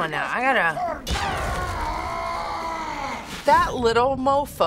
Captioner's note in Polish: głośne krzyczenie